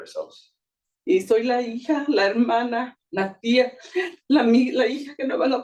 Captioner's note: speaking Spanish